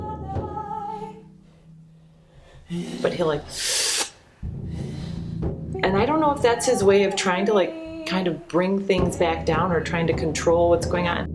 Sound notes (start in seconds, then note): 0.1 sing and drum; 1.3 breathes anxiously; 3.5 inhales sharply